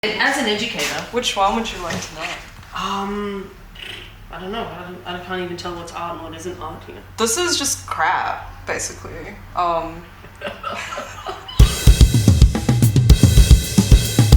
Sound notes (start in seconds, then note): 3.7 blows raspberry; 10.2 laughing; 11.6 upbeat music